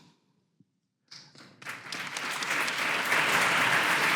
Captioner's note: audience applause